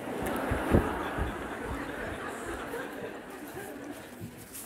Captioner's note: laughter